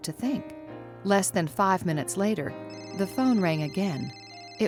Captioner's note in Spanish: teléfono sonando de fondo